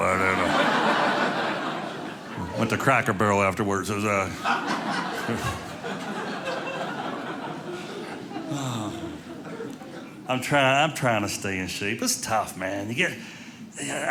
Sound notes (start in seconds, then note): 0.0 audience laughing